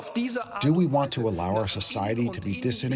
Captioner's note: through translator